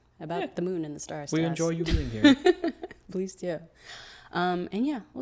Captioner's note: laughs